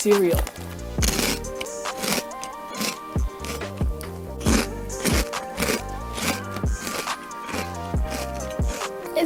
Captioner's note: more cronch